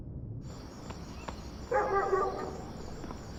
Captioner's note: crickets chirping; dogs barking in the distance